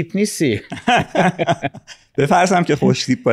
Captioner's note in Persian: صدای خنده